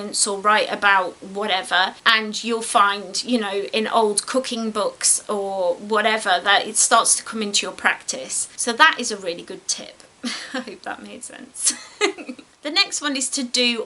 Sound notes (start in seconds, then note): 11.6 giggles